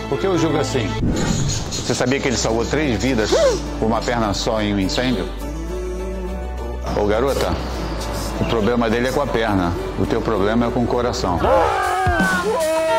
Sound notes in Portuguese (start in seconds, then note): 3.3 faz som de surpresa